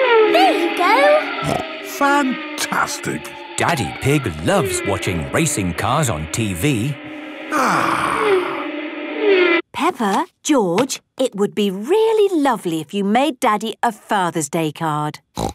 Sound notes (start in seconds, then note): 1.4 snorting; 7.4 contented sigh